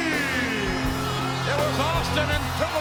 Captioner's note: audience cheers